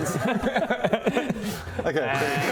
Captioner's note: problem solved laugh